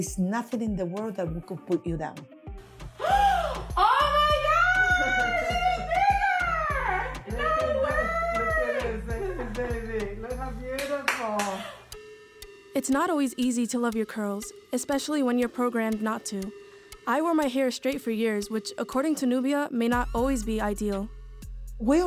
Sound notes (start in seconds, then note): 3.0 gasp; 10.8 clapping